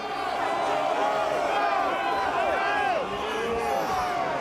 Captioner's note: crowd yelling